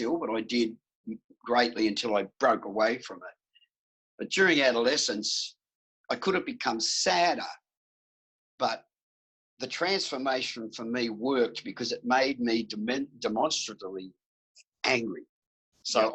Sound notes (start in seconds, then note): none